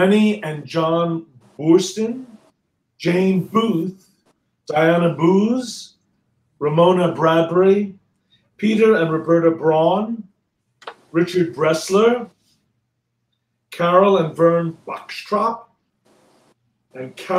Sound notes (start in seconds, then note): none